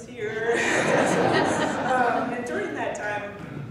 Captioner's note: laughing